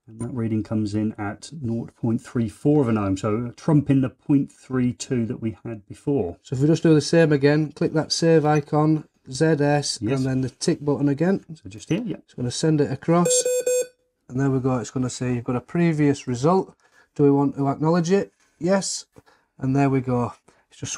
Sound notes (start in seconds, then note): 13.2 device beeping